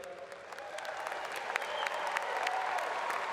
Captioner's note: applause